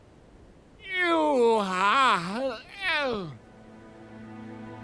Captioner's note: Gaylord_Steambath yawns